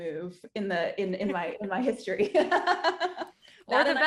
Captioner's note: laughing